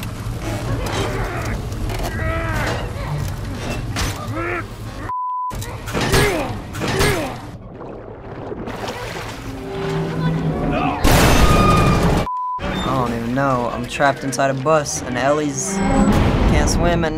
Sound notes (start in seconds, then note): 4.3 Joel groans; 10.9 bus creaks